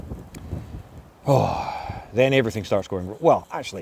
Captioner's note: sigh